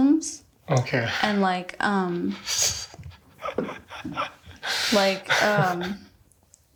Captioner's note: laughs